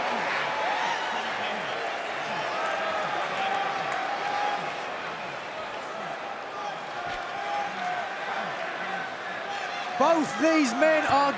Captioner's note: crowd cheering